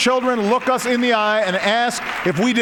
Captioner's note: applause